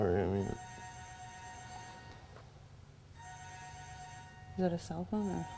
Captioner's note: phone ringing